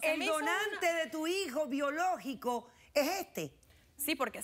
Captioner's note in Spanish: risas